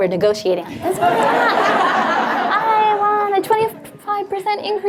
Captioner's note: audience laughs